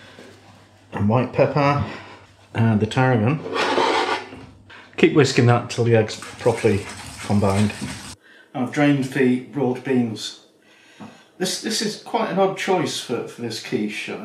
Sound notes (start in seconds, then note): none